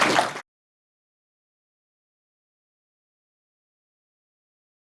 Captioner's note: audience clapping